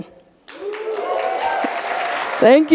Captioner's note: audience applauding